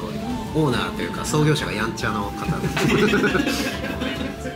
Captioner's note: laughs